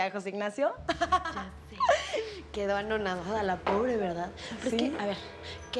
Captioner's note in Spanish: Risas